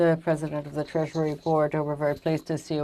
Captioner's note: speaking French